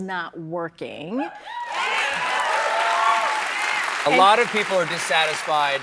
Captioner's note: cheers and applause